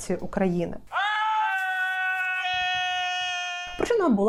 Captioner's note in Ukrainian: крики в лісі